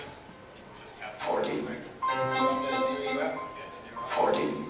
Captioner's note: multiple dings are played at once